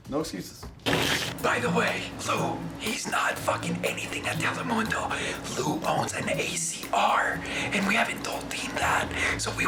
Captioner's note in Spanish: susurrando